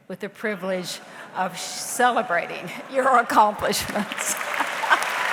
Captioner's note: audience applauds; laughs